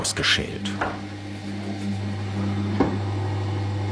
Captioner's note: steady whirring